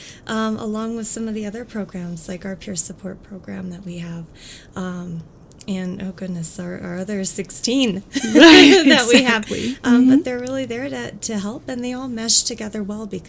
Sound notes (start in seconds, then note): 8.2 laughs